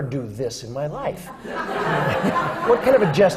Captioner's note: laughter